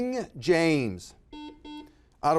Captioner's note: buzzer buzzes